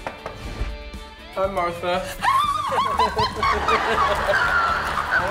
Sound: laughs; screams

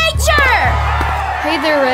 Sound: crowd cheering

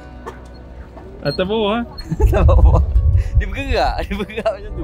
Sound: laugh

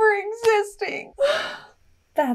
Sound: wails

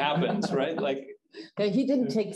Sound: chuckling

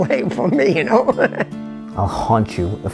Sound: laughs

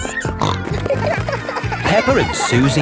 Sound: snorting

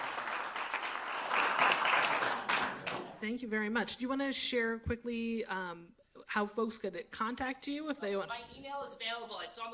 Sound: applause

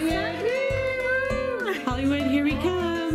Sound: cheers

